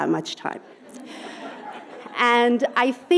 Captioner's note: audience laughing